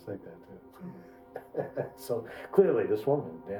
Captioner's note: Markus chuckles